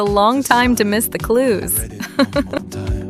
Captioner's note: haha